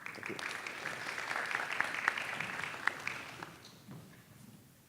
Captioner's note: applause